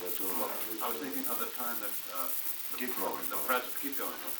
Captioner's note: production chatter